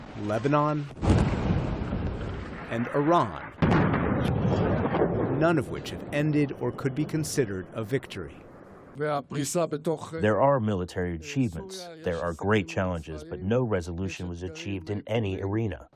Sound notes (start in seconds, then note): 9.2 through translator